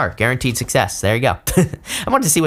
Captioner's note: chuckles